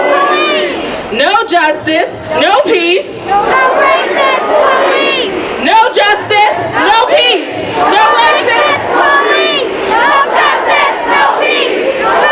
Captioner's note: chanting